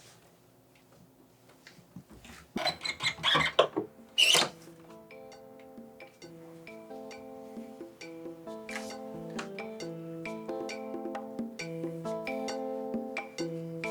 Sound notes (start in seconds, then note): 2.4 sound of opening a door; 3.8 mysterious music